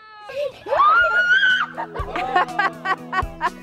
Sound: cheering

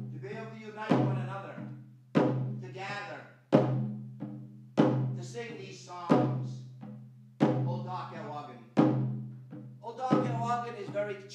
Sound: foreign language

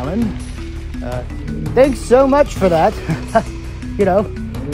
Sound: laughs

